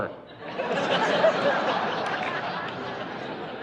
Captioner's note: laughing